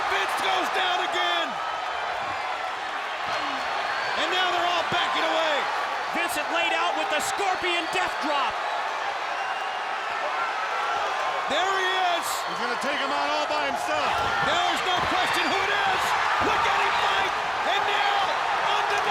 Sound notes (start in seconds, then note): 0.0 audience cheers; 14.1 audience cheers